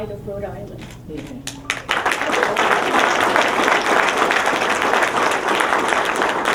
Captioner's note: applause